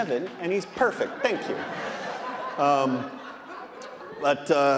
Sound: audience laughing

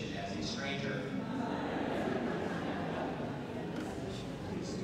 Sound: laughter

